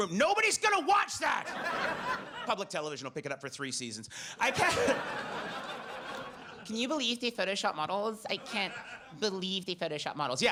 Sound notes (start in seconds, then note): 1.4 audience laughs; 4.4 audience laughs; 4.4 laughs